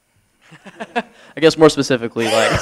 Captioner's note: laughter